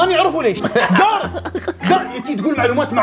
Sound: laughs

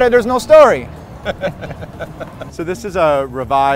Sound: laughing

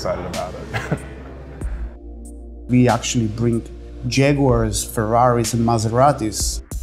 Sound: laugh

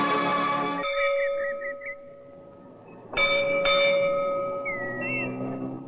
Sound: bell Tolling

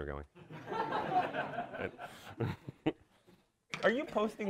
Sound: audience laughs

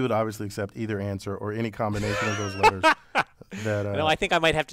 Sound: laugh

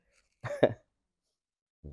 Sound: laughs

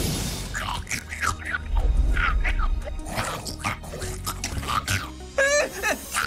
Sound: chittering; whimpering, gibbering

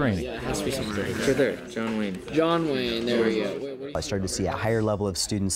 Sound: class in discussion

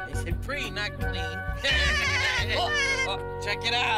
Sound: birds laughing

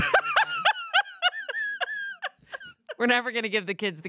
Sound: laughs

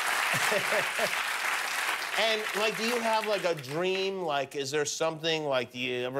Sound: applause

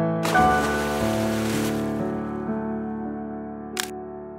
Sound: splashing

